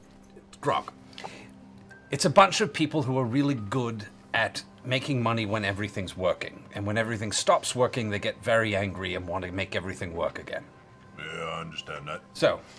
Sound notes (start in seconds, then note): none